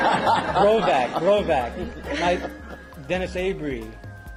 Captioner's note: laugh